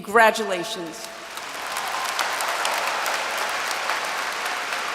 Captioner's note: audience applauds